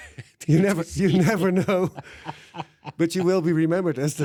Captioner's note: laughs